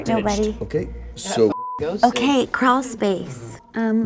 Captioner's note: beep